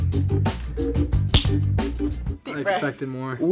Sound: loud smack

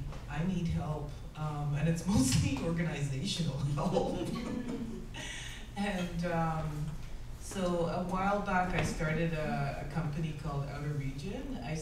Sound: laughs

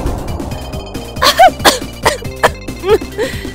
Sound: coughing

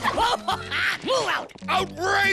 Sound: laughing

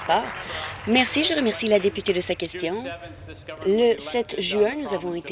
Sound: applause

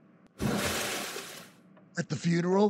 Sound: toilet flushing

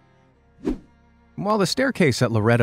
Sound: picture swooshes

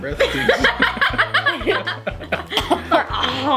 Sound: laughing

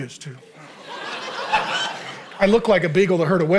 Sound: congregation laughing

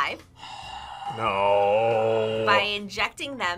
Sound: sighs

